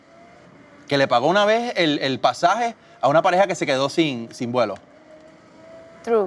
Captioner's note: talks in foreign language